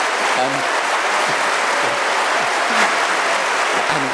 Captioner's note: applause and cheering